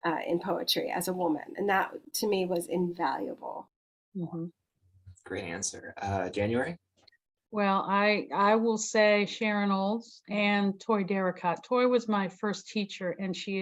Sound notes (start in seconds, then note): none